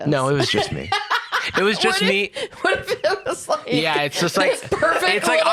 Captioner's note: laughing